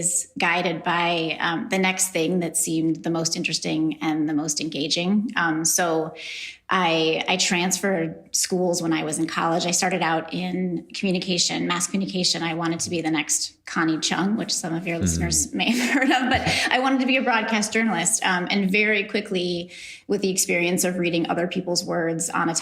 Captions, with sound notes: guided by the next thing that seemed the most interesting and the most engaging. So, I transferred schools when I was in college. I started out in Communication, Mass Communication. I wanted to be the next Connie Chung, which some of your listeners may have heard of. (laughs) But I wanted to be a broadcast journalist and very quickly, with the experience of reading other people's words on